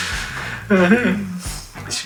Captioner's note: moaning-myrtle-wailing